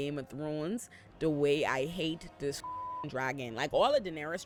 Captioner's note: beep